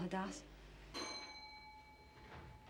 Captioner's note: bell dings